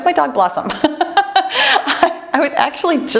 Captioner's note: laughs